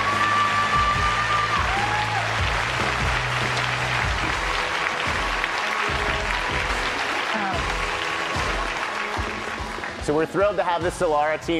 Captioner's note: applause and cheering